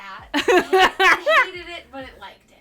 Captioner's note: presenter laughing